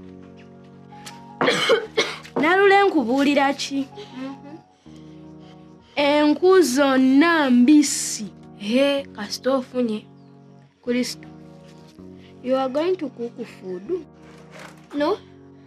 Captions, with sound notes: [Coughs] Nalule, I tell you what?! Hmm? All the firewood is wet. Eh! You have got some after all. Crystal? You are going to cook food? No.